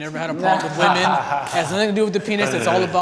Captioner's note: guys laugh